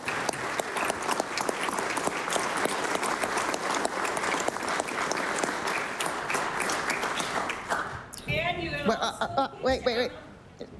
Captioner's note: applause